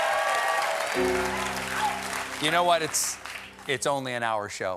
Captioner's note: cheers and applause